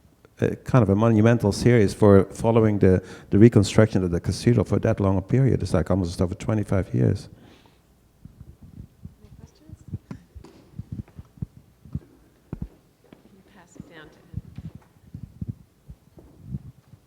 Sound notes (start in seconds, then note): 13.5 voiceover